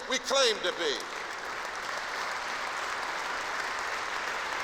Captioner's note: applause